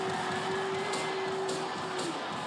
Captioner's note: cheers